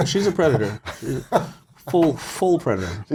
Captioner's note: Lewis laughs